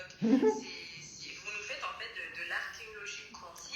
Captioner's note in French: Rire